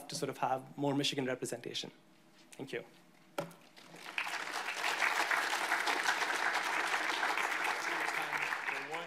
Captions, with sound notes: to sort of have more Michigan representation, thank you. (audience applauding)